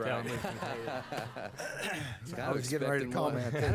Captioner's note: laughter